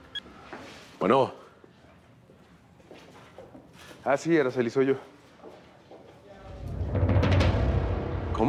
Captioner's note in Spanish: suena el celular